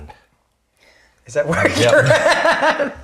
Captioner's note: laughing